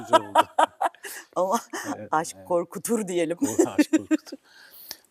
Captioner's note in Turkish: kahkaha